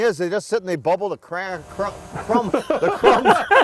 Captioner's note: laughing